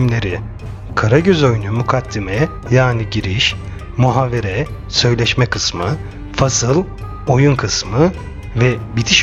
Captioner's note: conversation